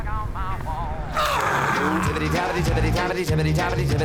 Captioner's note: finger bone snapping